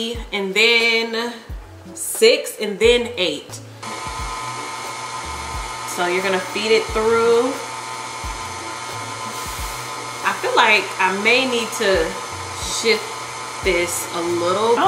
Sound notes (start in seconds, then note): 3.7 pasta maker whirring